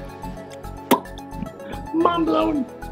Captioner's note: upbeat music; lips smacking